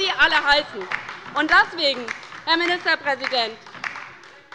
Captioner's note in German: Beifall bei der LINKEN - Lebhafte Zurufe von der CDU